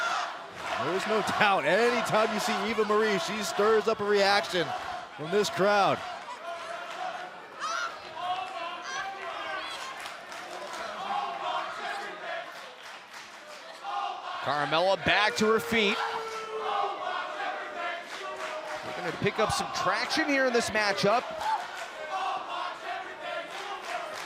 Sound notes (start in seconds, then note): 11.1 fans chanting